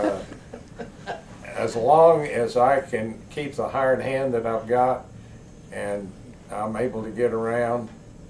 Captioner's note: laughter